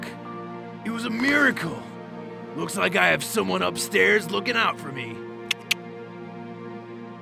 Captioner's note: clicks tongue